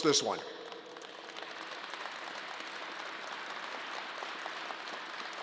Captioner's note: crowd applause